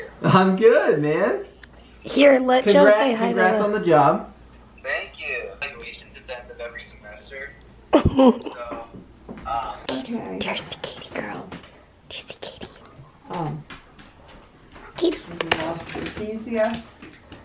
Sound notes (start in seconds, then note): 7.9 chuckling